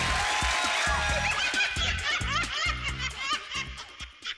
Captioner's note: laughing